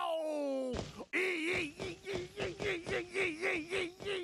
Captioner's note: yelping